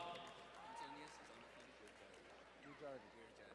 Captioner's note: distant cheering